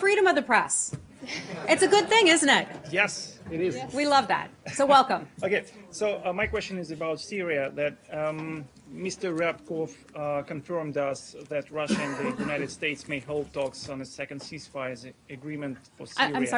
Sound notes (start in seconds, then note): 1.2 laughter